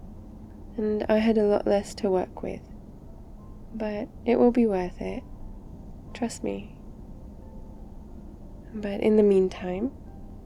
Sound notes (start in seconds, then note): none